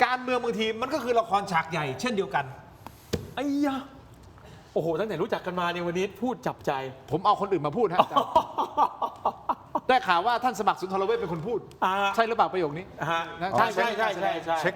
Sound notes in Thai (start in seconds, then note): 7.9 เสียงหัวเราะ